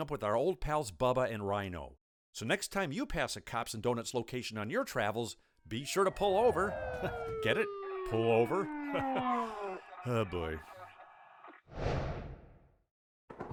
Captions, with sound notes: with our old pals, Bubba and Ryno. So next time you pass a Cops & Doughnuts location on your travels, be sure to pull over (chuckles), get it, pull over (laughs). (siren ringing) Oh boy! (whooshing)